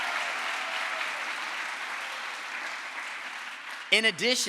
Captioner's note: crowd applause